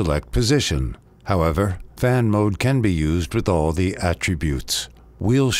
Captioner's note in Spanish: fan